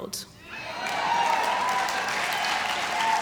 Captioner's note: applause